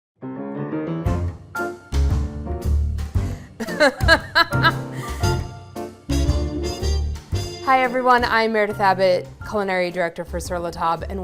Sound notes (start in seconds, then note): 0.8 bright quirky music; 3.4 laughs